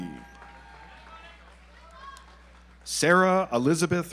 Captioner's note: audience applauds